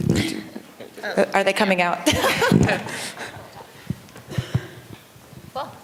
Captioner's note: laughter